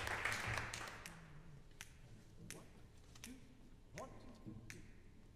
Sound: conductor snapping fingers

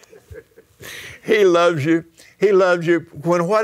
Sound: laughs

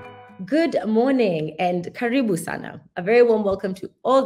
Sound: non-english speech

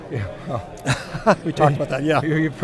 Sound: laughing

